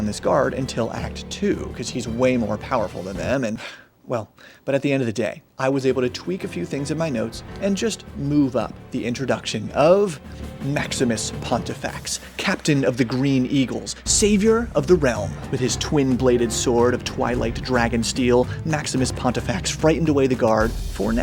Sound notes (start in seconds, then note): 10.2 inhales